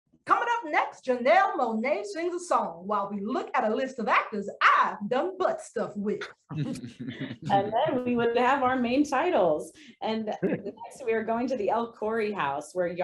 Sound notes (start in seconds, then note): 6.5 actors chuckling